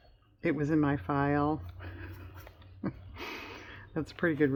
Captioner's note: laughs